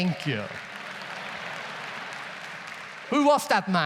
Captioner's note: audience laughs